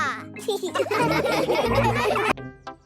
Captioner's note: laughing